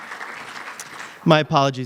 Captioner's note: applause